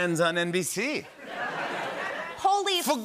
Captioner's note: laughter